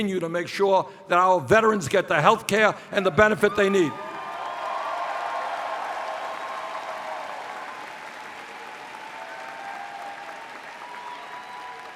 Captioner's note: cheers